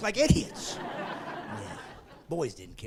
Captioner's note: laughing